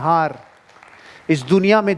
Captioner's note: round pof applauses